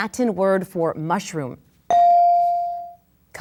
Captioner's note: bell dings